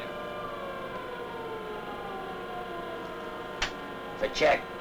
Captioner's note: siren blaring